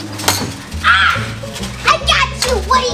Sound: Woody screams

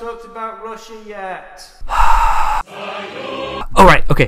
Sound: sigh

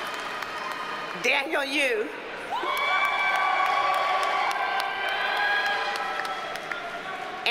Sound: audience cheers and applauds

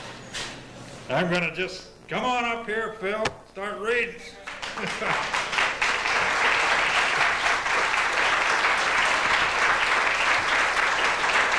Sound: applause

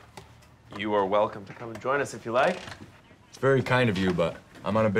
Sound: none

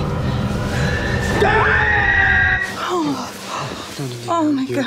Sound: screaming

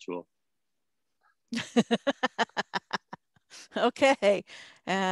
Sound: laughs

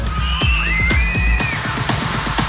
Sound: screaming

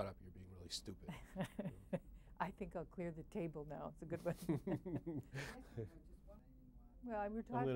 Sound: laughs

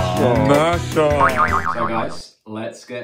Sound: boing

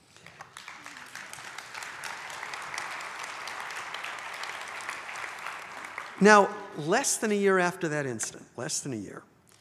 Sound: audience applauds

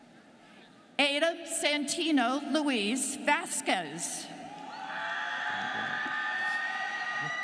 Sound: students cheering

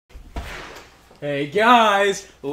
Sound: door from hell to the overworld opens

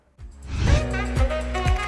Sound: upbeat music; air whooshing

